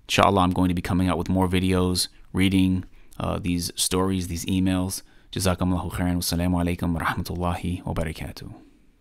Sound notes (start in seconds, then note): 5.6 speaking arabic